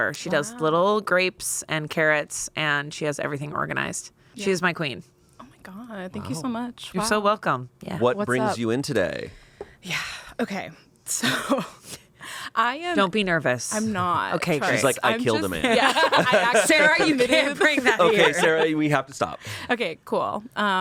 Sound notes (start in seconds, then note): 10.1 sighs; 15.6 everyone laughs